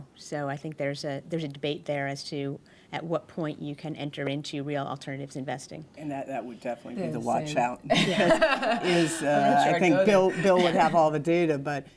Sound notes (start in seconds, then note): 7.9 laughter